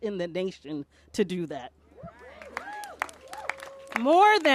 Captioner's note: applause